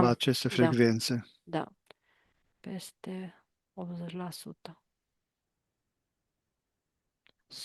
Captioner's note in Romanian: voce dreasă